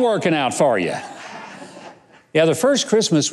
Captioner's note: audience laughs